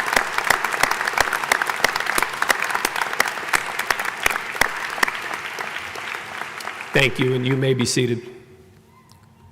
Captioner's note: applause